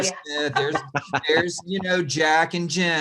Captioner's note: laughing